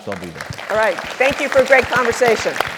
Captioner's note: applause